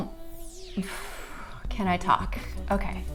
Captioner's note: exhales